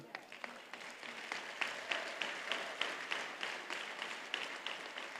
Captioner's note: attendees applauding